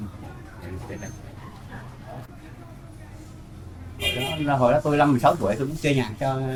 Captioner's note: speaking foreign language